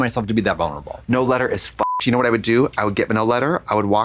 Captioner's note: beep